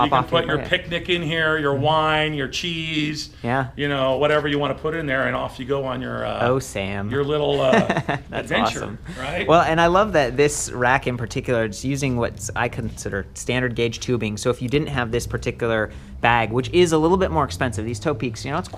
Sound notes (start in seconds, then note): 7.5 chuckles